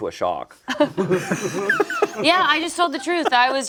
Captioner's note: group laughs